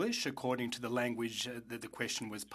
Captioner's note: speaking French